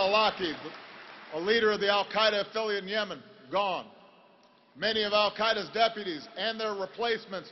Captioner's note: applause